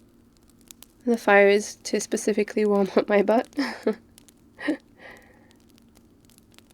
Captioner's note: laughs